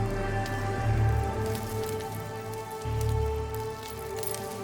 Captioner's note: rocks clattering